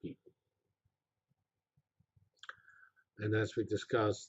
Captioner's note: pause